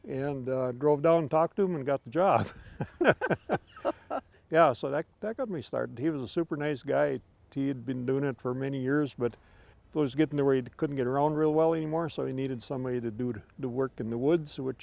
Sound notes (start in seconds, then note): 4.5 laughing